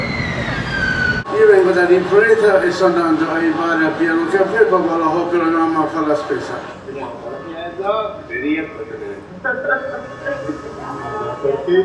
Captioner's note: audio recordings playing in the background